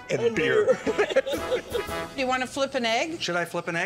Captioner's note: laughing